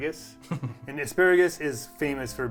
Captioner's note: chuckling